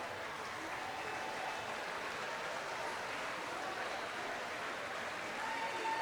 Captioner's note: audience applauding and cheering